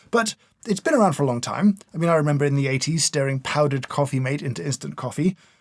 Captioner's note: none